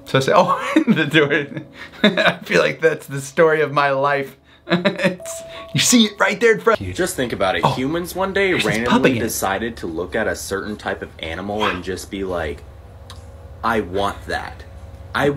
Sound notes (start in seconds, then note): 4.9 laughs